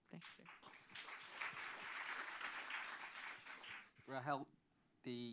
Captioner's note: applause